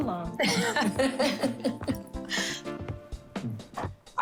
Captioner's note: Renee laughs